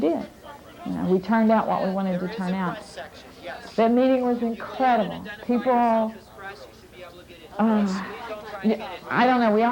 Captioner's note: sigh